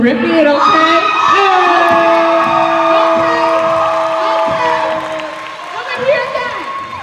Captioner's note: cheering